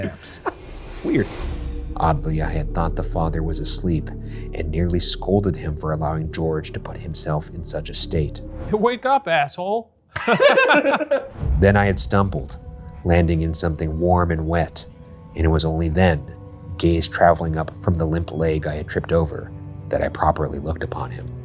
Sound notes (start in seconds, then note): 10.1 both laugh